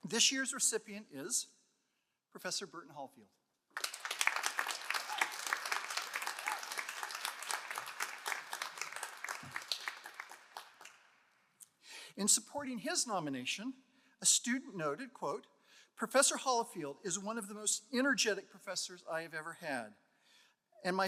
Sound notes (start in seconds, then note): 3.7 all applauding